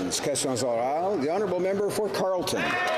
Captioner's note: some Applause